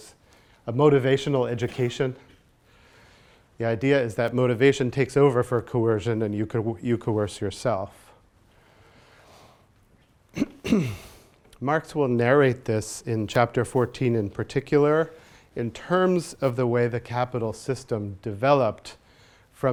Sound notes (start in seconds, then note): 10.3 clears throat